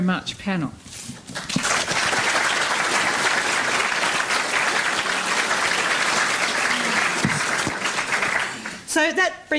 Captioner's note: applause